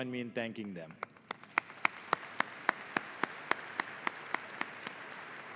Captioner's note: audience applauding